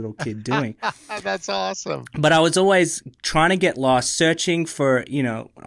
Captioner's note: laughs